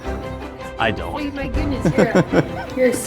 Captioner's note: laughs